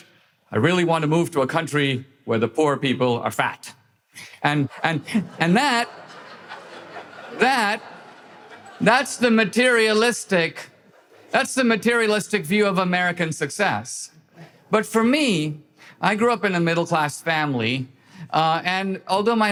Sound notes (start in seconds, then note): 4.5 audience laughter